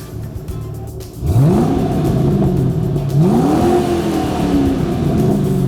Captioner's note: engine revving